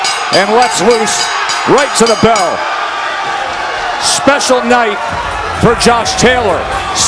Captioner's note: bell rings